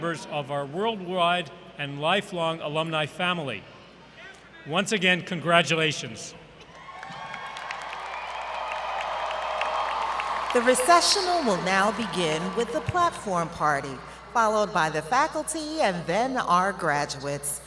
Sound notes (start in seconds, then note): 6.7 applause